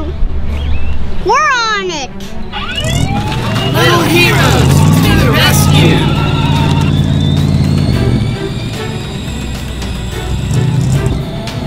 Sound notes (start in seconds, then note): 2.5 siren; 7.3 dramatic music